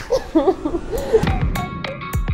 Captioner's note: giggles; techno music